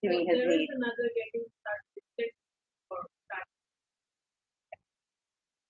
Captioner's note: woman speaks through warped and choppy audio